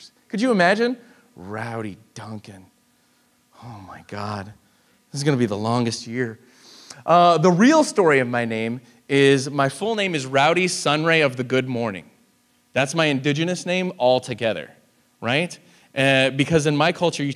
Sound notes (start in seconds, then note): none